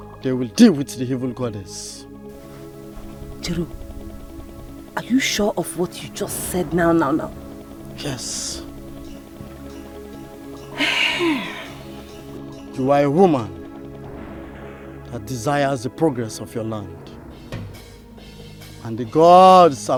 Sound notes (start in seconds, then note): 10.6 sighs